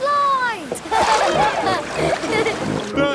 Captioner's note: laughing